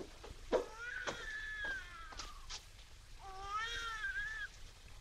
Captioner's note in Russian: детский плач